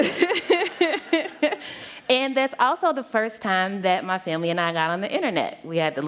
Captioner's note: laughter